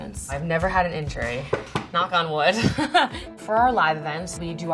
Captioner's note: laughs